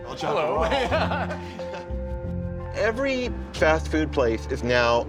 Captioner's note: laughs